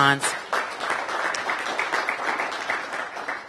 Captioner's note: applause